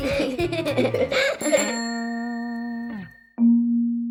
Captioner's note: bicycle bell rings; gentle music